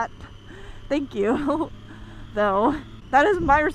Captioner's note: chuckles